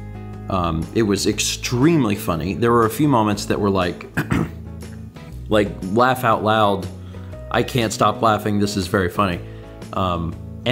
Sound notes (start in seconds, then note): 4.1 clears throat